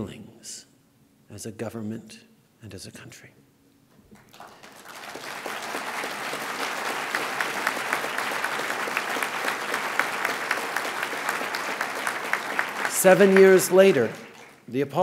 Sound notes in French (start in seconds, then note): 4.1 Applaudissements